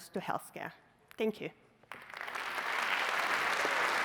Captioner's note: applause